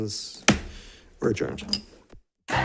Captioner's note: gavel thuds